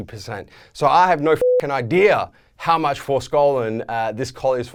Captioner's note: beep